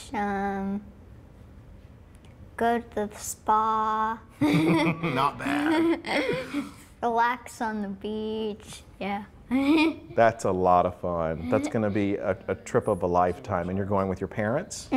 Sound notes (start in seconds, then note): 4.4 laughter; 9.4 laughs